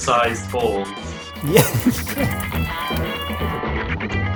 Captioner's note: laughs